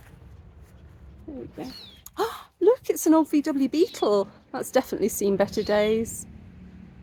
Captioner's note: gasp